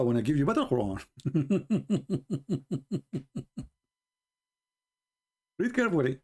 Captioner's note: Ketawa